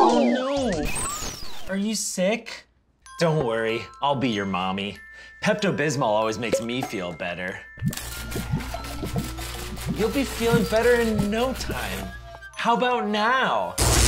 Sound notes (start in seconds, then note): 7.9 electrical zapping; 13.8 loud electrical zapping